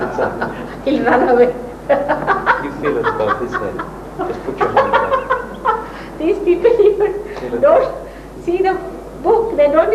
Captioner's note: Shri Mataji laughs